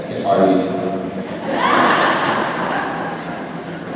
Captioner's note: laughs